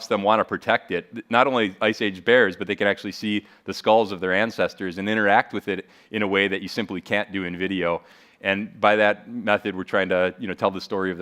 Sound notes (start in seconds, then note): none